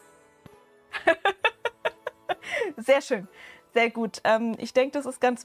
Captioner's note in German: Gelächter